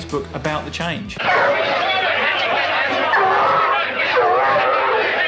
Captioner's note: crowd yelling